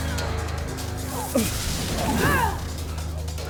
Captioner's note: zapping; grunting